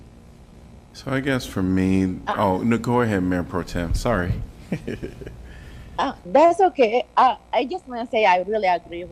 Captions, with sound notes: I guess from me, no, go ahead Mayor Pro Tem. Sorry. [LAUGHTER] That's okay. I just want to say I really agree